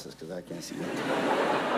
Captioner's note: ~laughter~